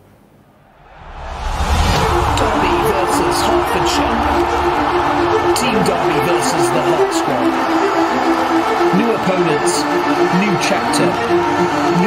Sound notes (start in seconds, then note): 1.0 crowd cheering; 2.0 uplifting music